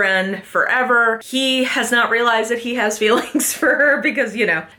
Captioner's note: laughs